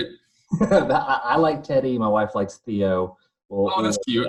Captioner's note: laughs